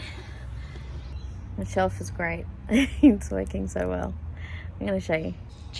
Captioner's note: chuckles